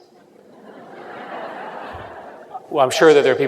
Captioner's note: laughter